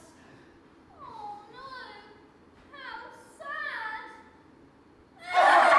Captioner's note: mockingly; they all laugh and it clashes horribly